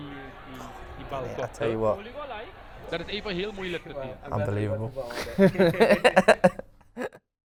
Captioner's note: laughs